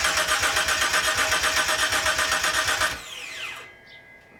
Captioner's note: engine cranks over